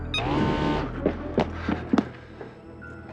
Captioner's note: whirring